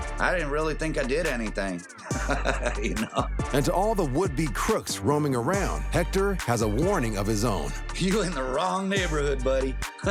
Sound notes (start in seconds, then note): 1.7 chuckles